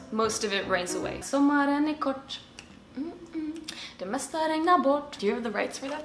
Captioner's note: humming